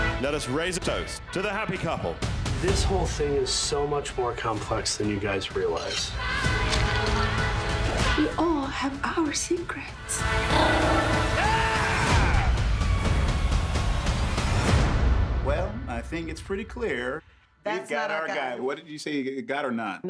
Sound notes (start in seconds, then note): 10.4 growls; 10.6 screams